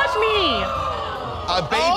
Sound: audience gasps

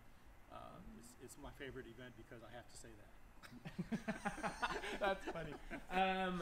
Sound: laughter

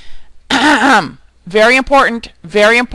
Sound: clears throat

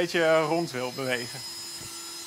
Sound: drilling sound

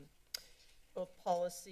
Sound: clicks Tongue

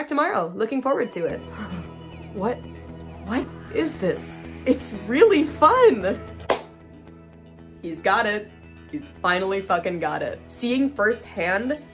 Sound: breathing

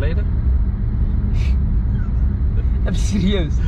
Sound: laughing

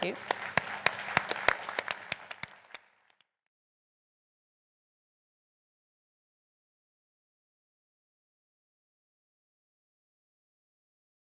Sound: applause

